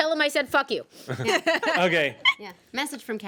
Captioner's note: women laugh